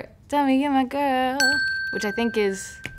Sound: ding

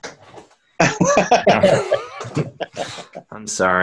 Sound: laughs

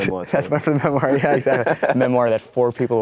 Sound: laughter

